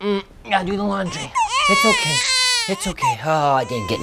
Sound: baby crying

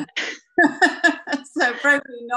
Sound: laughter

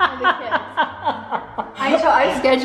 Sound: laughing

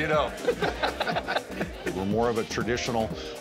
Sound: laughter

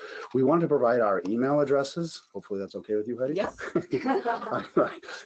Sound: laughs

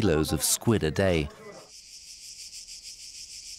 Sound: insects chirp

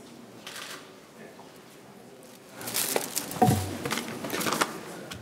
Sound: camera shutter clicks

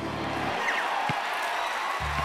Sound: cheers and applause

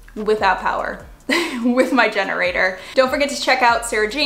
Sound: chuckles

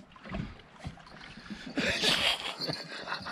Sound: laughing

